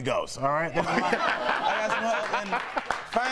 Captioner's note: laughter